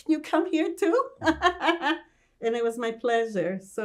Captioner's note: laughing